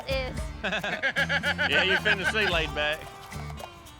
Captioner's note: everyone chuckles